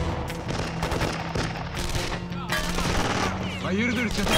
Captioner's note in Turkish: Silah sesleri